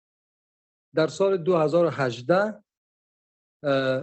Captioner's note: speaking dari